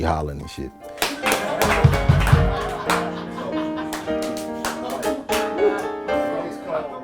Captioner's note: hands clap; group laughs